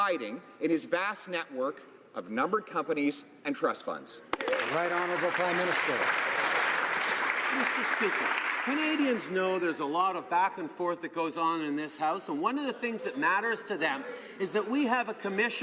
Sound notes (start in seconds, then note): 7.1 some Applause